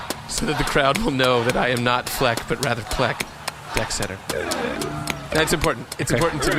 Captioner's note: C-53 makes an unenthused noise